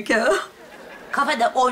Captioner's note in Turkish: Gülme efekti